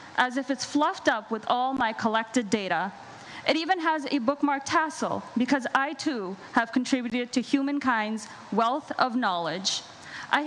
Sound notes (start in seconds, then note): none